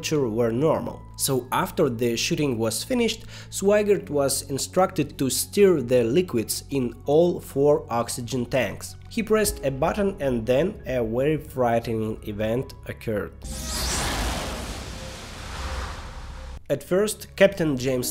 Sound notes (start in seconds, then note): 13.4 sound of explosion. "Houston, we have a problem" is heard again